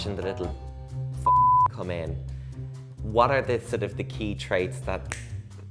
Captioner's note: snaps